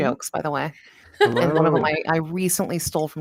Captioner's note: laughs